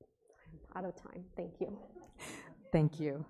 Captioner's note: audience chuckling